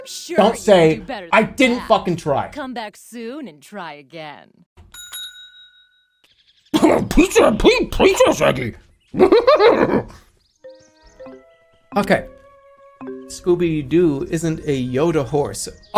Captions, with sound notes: Don't say, I didn't fucking try. "Come back soon and try again." [scooby sounds] Okay... "Scooby-Doo isn't a Yoda horse."